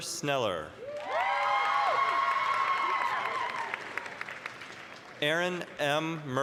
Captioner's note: applause, cheering